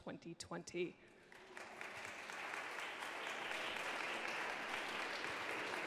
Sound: audience clapping

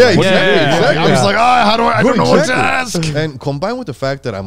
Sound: groans

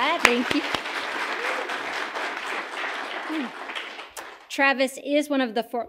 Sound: audience applauding

